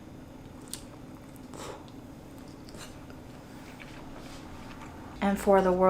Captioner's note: dumpling crunches; air blows